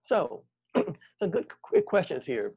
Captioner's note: clears throat